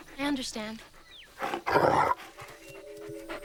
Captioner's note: growling